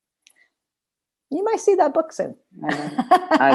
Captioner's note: laughter